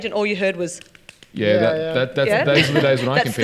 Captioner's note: hands tapping